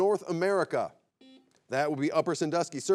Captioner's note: buzzer beeps